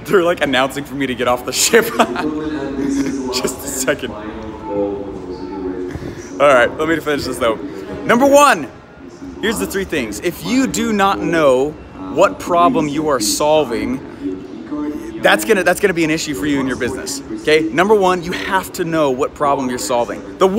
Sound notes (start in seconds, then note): 1.6 laughing; 2.0 muffled announcement